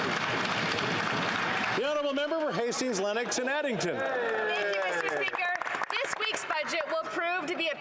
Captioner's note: some Applause